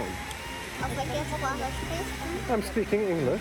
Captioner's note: speaking German